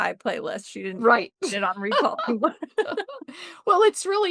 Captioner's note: laughter